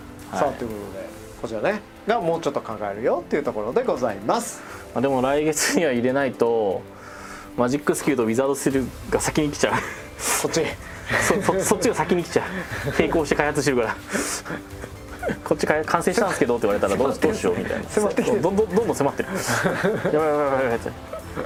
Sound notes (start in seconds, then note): 14.9 giggles